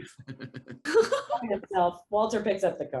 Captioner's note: actors laughing